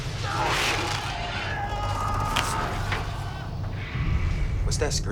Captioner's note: men crying out